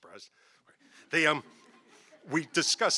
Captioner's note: audience laughing